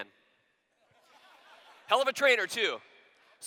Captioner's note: laughter